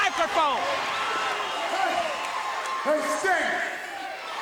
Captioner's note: crowd cheering